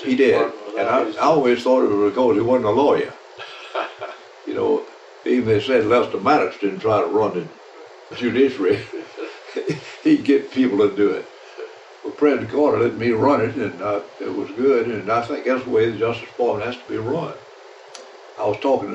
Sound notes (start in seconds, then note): 8.7 laughter